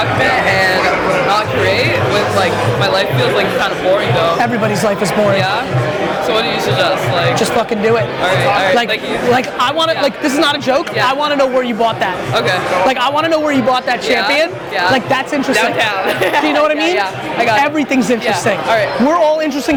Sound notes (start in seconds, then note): 15.6 laughs